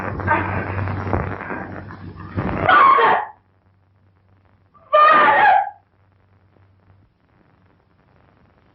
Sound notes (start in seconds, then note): 0.0 thunder; 5.0 thunder